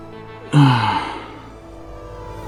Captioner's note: tense electronic music; big sigh; tense electronic music